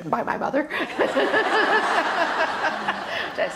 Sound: laughter

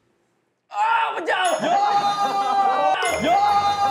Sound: screams

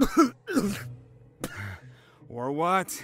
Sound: coughing up blood

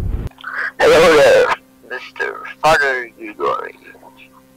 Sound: breathes

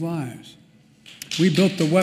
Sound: applause

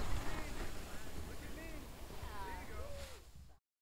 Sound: snowboarders chattering

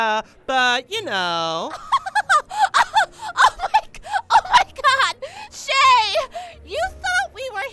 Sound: laughing

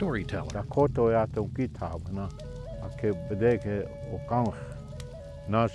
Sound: speaking in foreign language

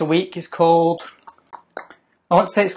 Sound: tongue clicking

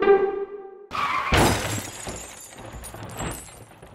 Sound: intro music; tyres screeching then car crash

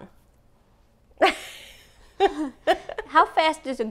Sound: laughing

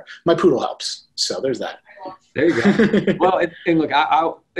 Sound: chuckles

